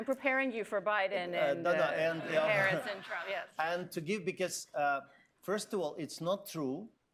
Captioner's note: laughter